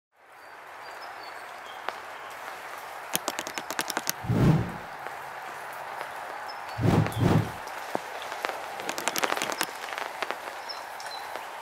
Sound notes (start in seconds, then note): 1.7 sound of raindrops